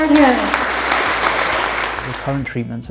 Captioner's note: audience clapping